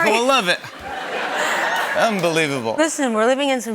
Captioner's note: laughter